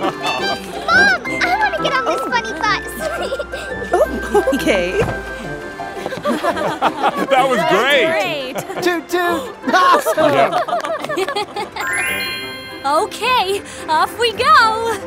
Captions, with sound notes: Mom! I want to get on this funny bus! Oh, okay! [laughing] That was great! Toot toot! Awesome! [giggling] Okay! Off we go!